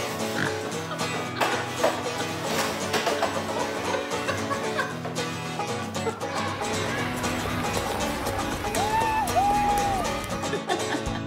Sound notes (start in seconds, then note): 5.4 snorting laughter